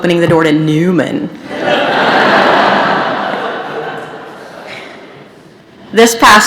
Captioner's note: laughter